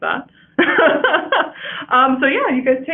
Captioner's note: laughing